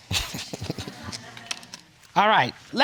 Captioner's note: all laughing